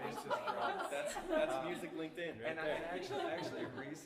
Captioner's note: laughter